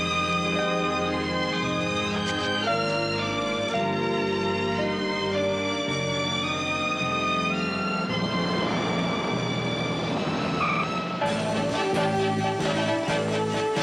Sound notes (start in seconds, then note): 9.8 tires screeching